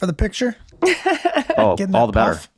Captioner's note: laughs